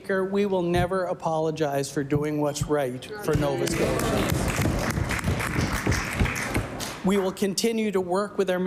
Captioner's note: applause